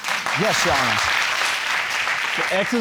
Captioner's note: applause